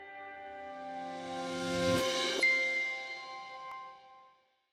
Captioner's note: gently chiming bells